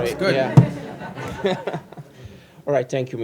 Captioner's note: laughter